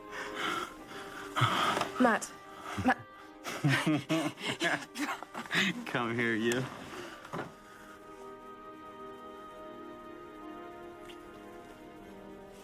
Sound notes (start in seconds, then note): 3.4 Louise laughs; 8.9 haunting music continues